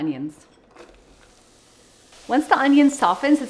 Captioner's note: onions sizzling in pan